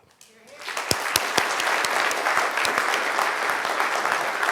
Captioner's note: audience applauding